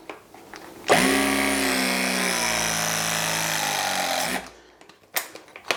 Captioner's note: press vibrates loudly